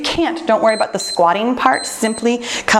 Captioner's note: timer beeps